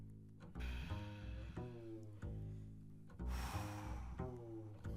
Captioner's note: group panting